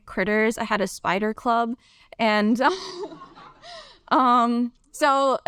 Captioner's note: laughs